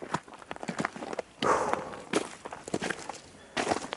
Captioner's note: sighs